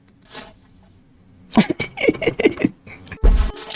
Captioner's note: laughs to myself